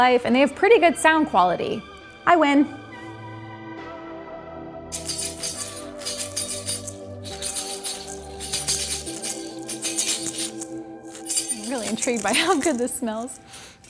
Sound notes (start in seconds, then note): 4.9 rattling